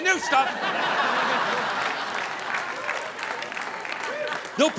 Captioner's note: audience laughing